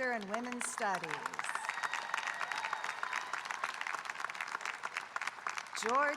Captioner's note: audience applauding and cheering